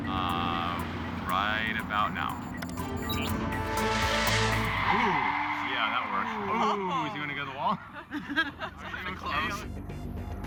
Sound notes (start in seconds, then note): 3.2 tires screeching; 8.4 laughing